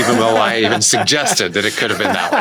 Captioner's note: Nilay laughing